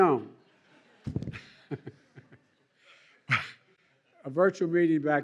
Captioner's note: laughter